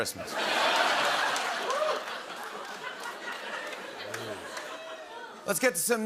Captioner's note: laughter